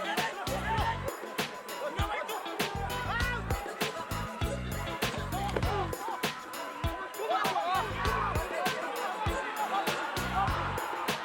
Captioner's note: shouting in afrikaans